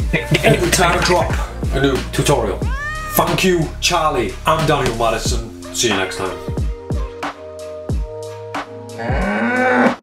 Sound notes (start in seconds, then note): 2.6 cat meowing; 7.4 mellow hip hop music; 8.9 cow mooing